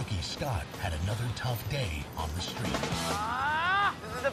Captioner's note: groans